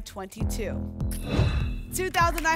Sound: whoosh

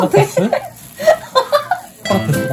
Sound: laughing

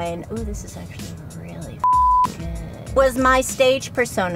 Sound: beep

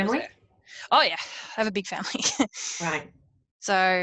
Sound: laughs

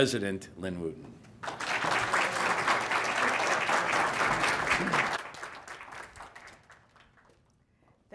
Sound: applause

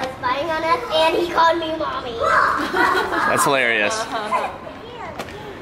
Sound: laughs

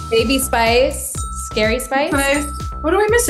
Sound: ding sound

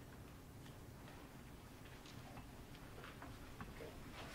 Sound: speaking away from mic

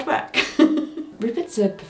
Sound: laughing

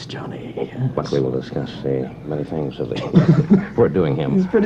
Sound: laughter

